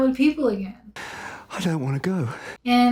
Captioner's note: heavy breathing